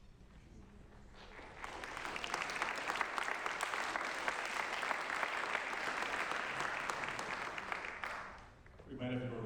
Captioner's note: applause